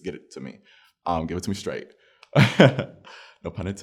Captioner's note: laughs